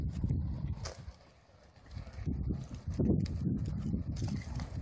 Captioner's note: fire crackling